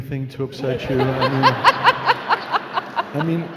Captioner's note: laughing